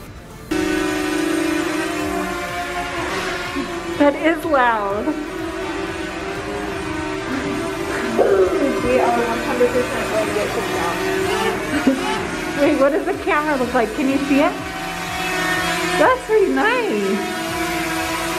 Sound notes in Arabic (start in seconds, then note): 1.0 الدرون تطن بصوت عال; 5.6 الطائرات بدون طيار تطن بصوت عال